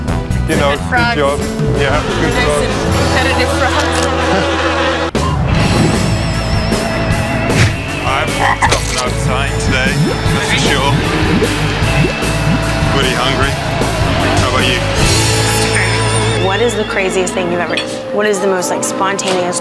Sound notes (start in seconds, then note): 4.1 flies buzzing; 6.8 upbeat music; 7.8 frog croaking